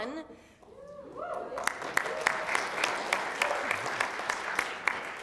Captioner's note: audience applauds